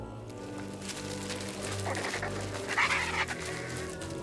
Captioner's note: squawking